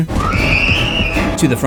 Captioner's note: screams